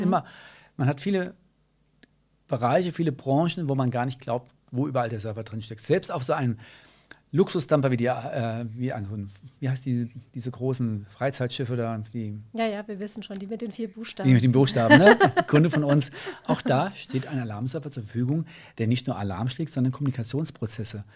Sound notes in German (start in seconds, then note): 14.7 lacht